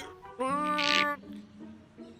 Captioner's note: grunts